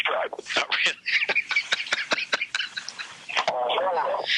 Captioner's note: laughs